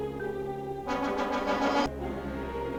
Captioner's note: dramatic music; tank hisses; ominous music